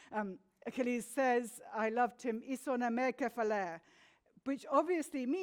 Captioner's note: speaks in foreign language